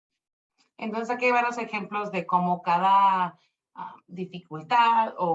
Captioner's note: speaking Spanish